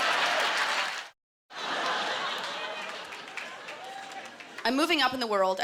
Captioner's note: laughter